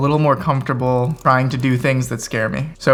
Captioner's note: fingers typing